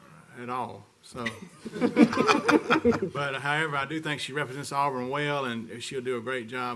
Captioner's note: laughter